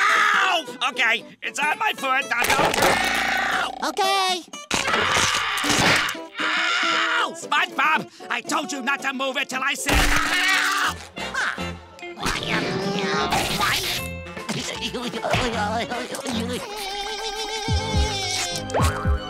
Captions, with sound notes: Okay, it's on my foot. Now, don't- Ow! Okay! [groaning] Ow! SpongeBob, I told you not to move til I said- Ow! [grunting] [babbling]